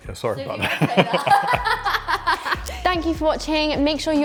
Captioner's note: laughing